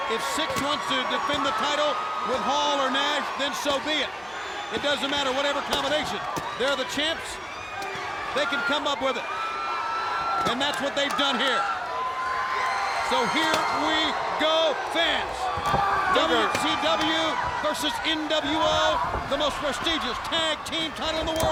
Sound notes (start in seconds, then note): 15.4 footsteps plodding; 16.7 wrestlers grunting